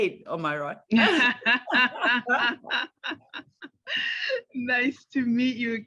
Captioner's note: laughter